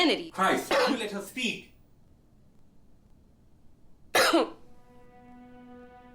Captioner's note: gentle music; Miranda coughing